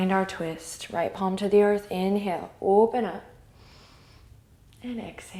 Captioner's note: inhale